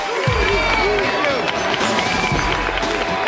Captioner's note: Aplausos, vivas